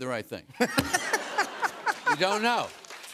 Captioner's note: laughter